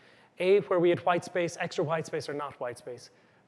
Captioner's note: none